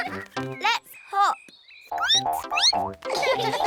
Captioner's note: squeaks; all giggle